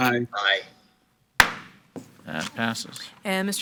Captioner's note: gavel bangs